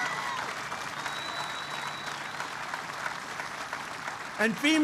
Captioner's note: applause